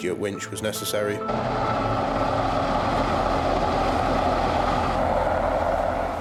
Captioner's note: helicopter engine roars